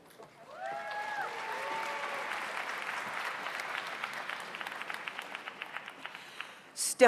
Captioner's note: audience applauds; audience cheers